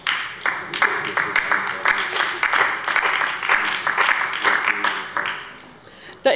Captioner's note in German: Beifall bei der LINKEN, der SPD und dem BÜNDNIS 90/DIE GRÜNEN